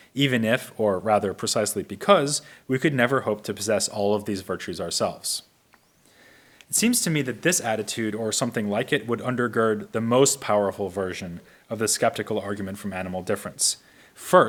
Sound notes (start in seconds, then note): none